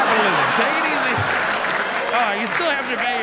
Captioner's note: audience laughs